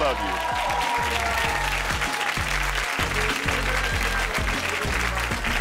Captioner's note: audience applauding and cheering; upbeat music